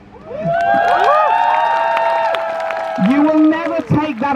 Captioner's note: crowd Cheers